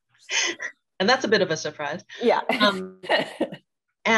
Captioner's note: laughs